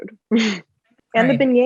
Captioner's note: laughs